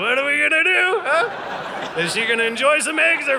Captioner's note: audience laughing